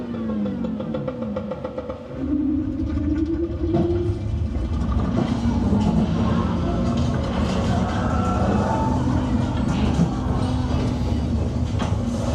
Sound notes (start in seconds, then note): 1.4 creature grumbling; 1.4 people screaming